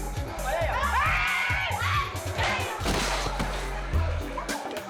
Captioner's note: women shrieking